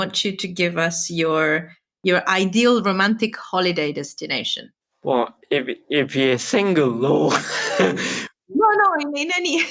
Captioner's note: both laugh